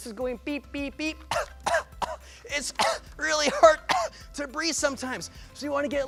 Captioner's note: cough cough